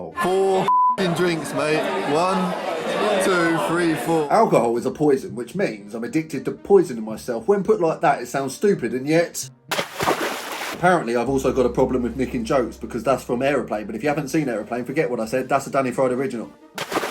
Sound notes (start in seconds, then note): 0.6 beep; 9.7 splashing water